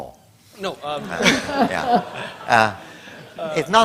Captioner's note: laughter